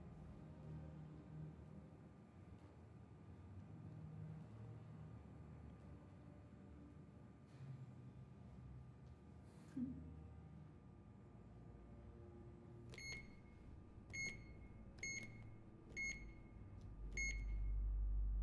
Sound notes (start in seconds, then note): 14.1 beeping